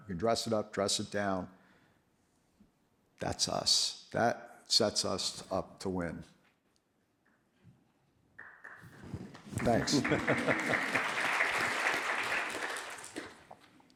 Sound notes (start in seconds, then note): 6.8 applause